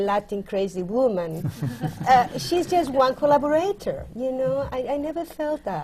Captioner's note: laughter